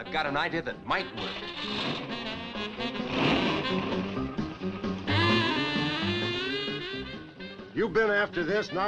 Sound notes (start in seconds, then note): 1.1 engine revving